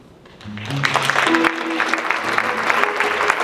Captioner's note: audience clapping; jazz music